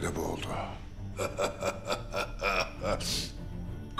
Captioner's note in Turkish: Alıncak gülüyor